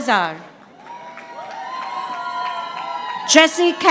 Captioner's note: audience applauding